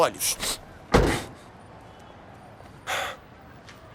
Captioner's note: trunk lid slams